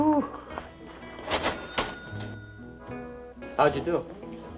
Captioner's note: cash register ringing